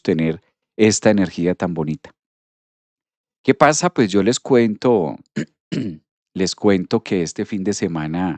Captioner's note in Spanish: carraspeo